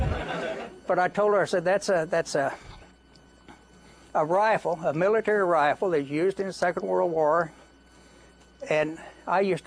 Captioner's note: laughter